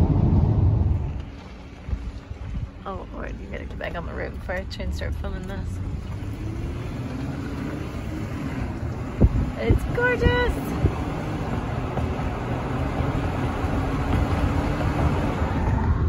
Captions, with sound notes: oh Lord, you gotta get back on the road before I try to start filming this... *car accelerating* It's gorgeous!